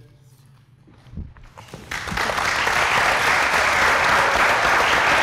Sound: applause

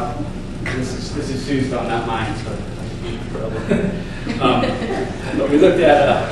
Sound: student laughs

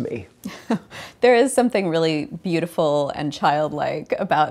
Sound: chuckles

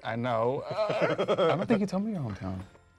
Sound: Michael laughs

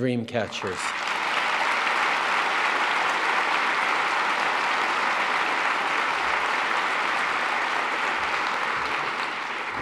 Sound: applause

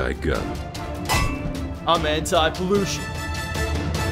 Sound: metal clinks

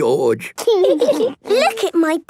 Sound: laughing

